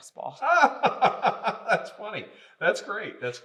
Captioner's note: laughing